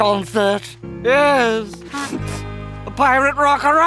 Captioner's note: sniffles